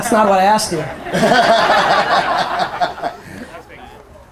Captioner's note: audience laughter